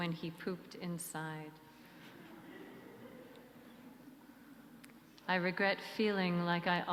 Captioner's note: soft laughter through the sanctuary